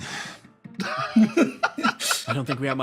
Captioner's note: laughs